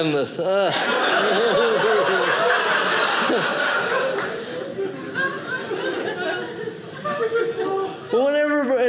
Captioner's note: audience laughing